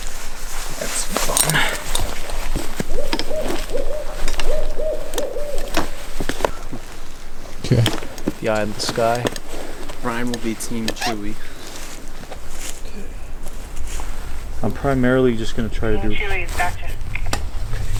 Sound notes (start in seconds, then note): 3.1 owl hooting